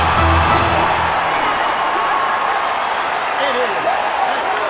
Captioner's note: dramatic music; crowd cheering